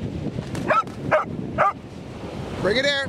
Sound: dogs barking

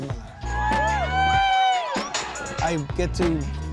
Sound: crowd cheering

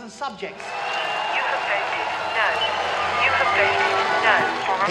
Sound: crowd cheering

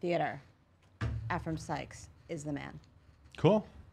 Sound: taps table

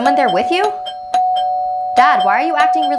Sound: doorbell rings

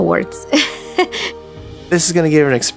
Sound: laughing

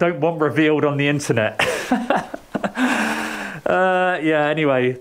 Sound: laughs

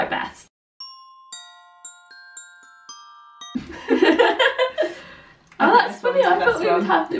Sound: laughing

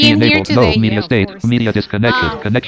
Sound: low voice; computer voice continues

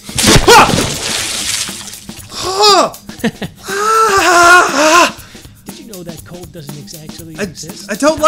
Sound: water Splash

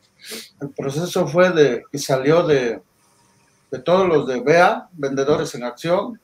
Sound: speaking in foreign language

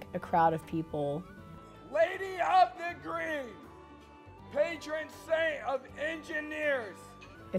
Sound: yelling

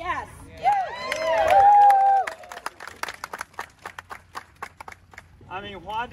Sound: applause

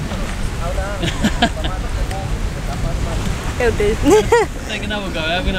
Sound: laughs

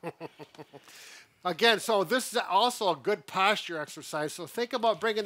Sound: chuckles

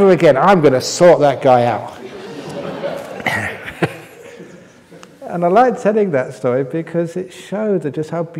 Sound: laughter

